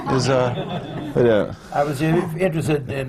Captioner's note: laughter